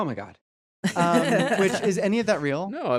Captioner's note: all laughing